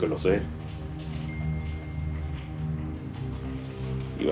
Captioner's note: phone chimes